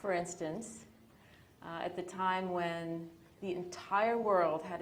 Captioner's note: none